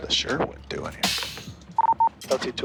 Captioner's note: beeping